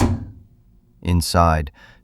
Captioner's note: SFX: drawer opening